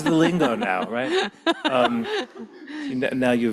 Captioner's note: laughing